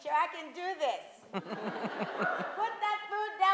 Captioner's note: audience laughs